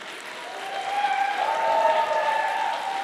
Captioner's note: applause